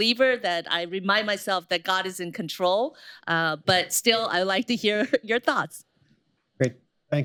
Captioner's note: laughs